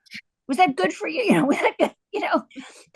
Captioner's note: laughs